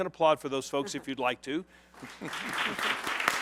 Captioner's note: applause